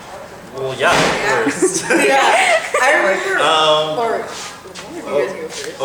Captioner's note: laughter